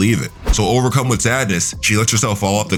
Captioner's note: air whooshing